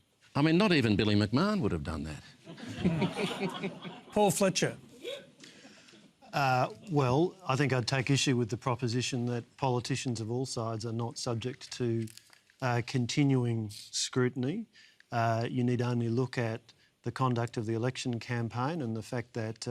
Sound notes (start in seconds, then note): 2.4 laughter